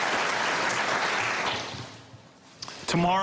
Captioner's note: applause